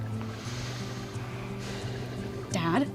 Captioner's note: sighs